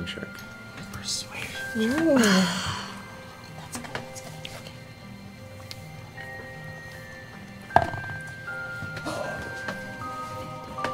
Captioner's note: quietly